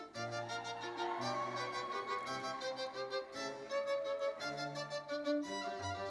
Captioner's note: audience cheering and applauding